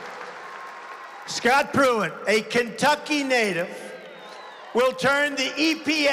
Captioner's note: applause